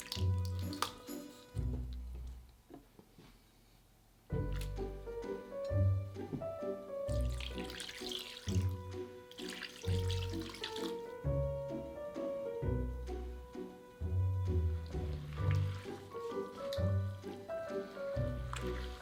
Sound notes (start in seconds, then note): 7.1 liquid pouring